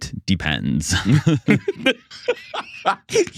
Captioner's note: both Laughing